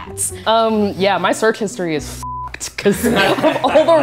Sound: beep; laughter

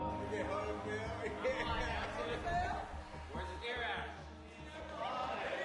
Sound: indistinct chattering, laughing

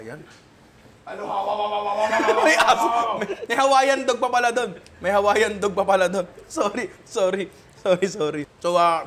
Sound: imitates a dog's barking

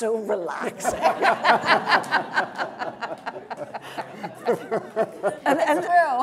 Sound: audience and panel laughing

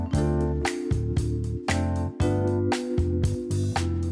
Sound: snaps fingers

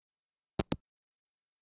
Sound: hangup

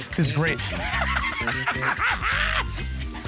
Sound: laughing

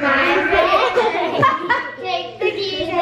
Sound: laughing

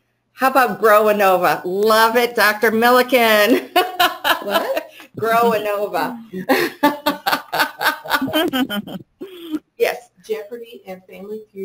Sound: speaker laughing

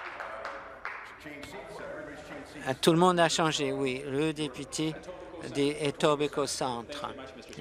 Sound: applause

